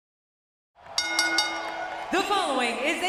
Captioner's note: bell rings